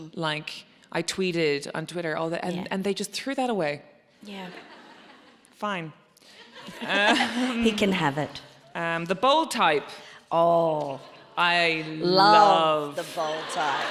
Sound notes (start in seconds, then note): 4.5 audience laughs; 12.2 audience laughs